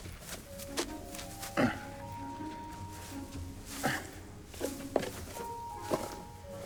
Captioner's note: light music; tinsel rustling